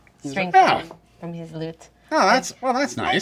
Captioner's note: Snarr grunts in surprise